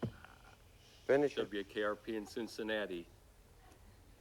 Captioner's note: none